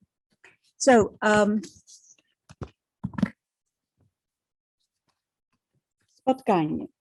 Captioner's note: speaking in foreign language